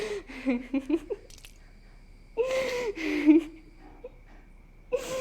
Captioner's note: laughter